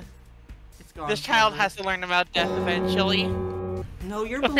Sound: death knell

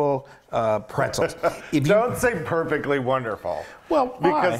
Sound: laugh

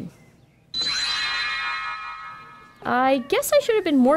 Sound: magic noise!

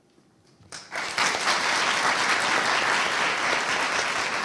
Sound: audience applauding

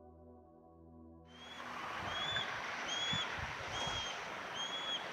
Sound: birds chirping

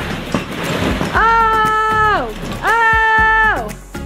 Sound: screams

